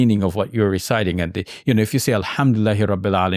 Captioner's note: speaks in Arabic